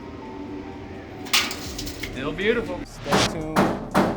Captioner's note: hammering